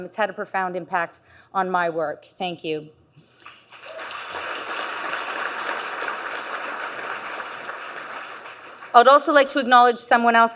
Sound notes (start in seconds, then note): 3.4 audience clapping